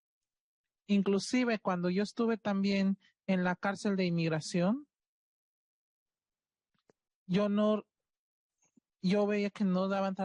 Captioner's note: speaking Spanish